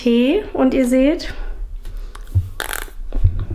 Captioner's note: pfffft